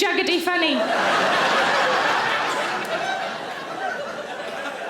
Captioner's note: audience laughing